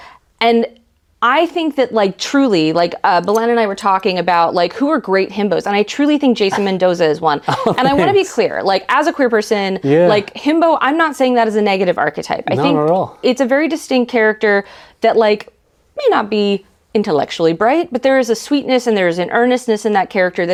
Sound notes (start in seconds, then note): 7.3 laughs